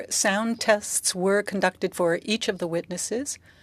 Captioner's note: speaking French